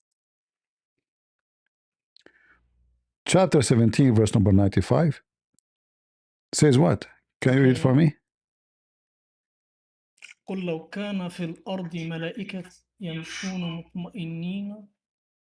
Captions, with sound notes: Chapter 17 verse number 95 says what? Can you read it for me? (Reads in Arabic)